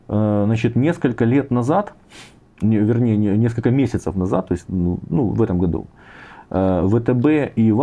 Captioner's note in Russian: фыркает